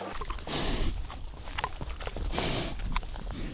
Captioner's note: pig snuffling